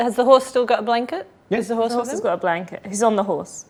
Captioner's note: overlapping chattering